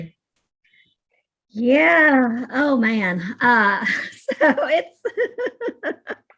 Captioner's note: laughs